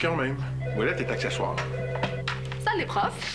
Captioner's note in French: Le téléphone sonne